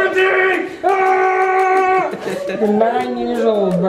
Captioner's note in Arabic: صراخ